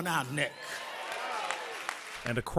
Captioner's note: applause